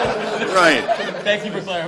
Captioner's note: laughter